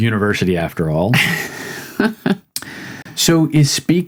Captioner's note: laughing